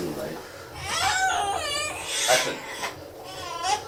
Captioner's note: baby crying